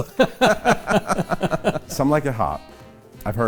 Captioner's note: laughter